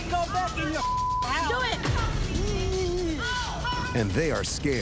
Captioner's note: whines